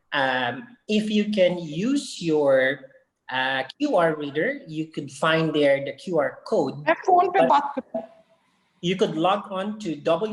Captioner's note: background chatter